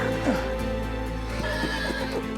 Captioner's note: gasps